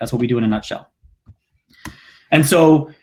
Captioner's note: clicking